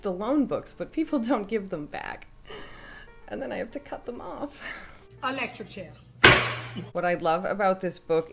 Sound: electric chair! *gavel

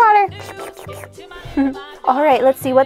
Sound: Marshall sips water

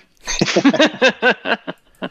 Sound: laughter

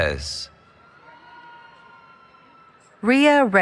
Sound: cheering

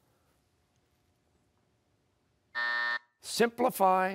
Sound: buzzer

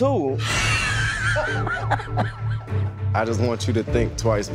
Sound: laughter

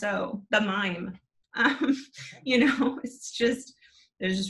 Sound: chuckles

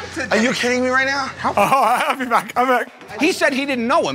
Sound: laughing

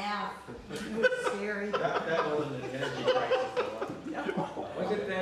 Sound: laughter

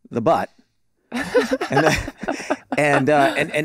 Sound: all laughing

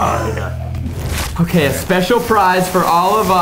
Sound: paper tearing

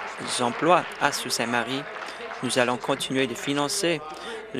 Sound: applause

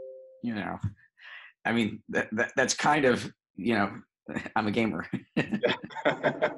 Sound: both laughing

